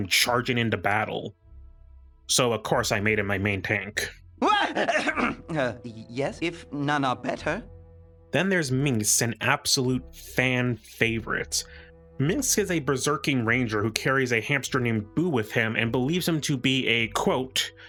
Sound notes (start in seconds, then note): 4.3 startled Yell